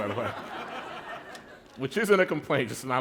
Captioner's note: laughter